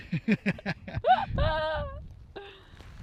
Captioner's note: laughs